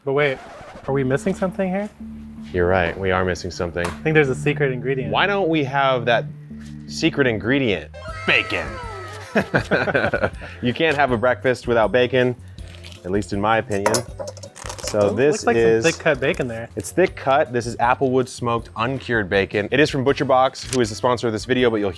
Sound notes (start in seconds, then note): 8.0 both laughing